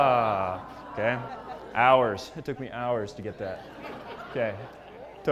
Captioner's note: laugh